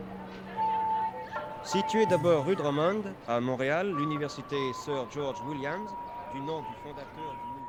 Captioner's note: newscaster speaking French